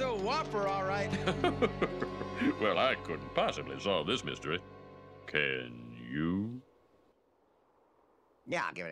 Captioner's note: laughs